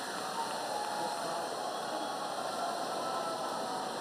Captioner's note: applause